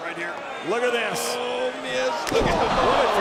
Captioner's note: body thudding